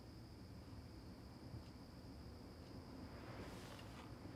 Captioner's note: crickets chirping